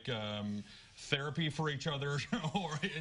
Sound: laughter

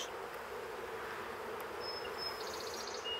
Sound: humming, birds chirping

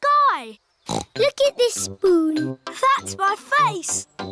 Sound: snorts

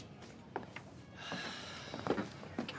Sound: sighs

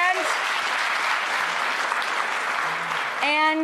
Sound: audience clapping

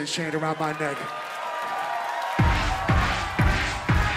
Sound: audience cheers; upbeat hip hop music

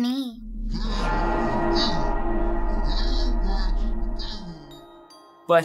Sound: muffled Screams

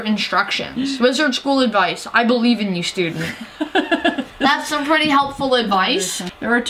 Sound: laugh

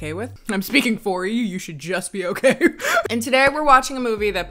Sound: chuckles

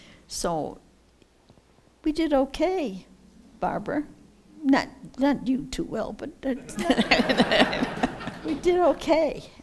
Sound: laughter

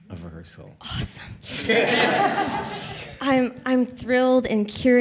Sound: all laughing

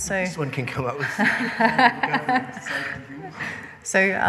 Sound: laughing

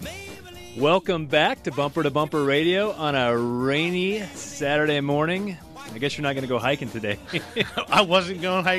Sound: laughs

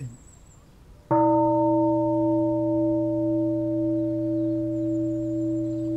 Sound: bell

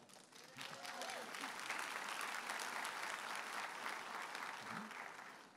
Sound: audience applauding and cheering

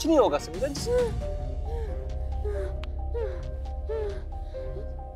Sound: Sameera panting heavily

